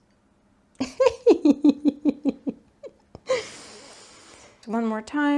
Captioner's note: giggles